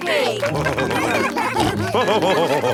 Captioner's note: all cheering; laughing